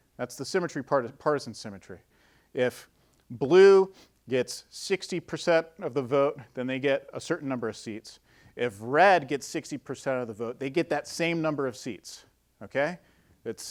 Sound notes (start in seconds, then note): none